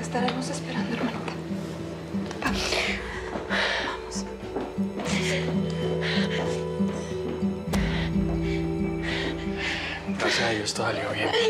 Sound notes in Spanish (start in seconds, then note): 10.0 sollozos